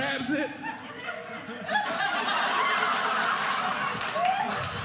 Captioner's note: audience laughing